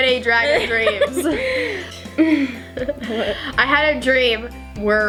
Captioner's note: both laugh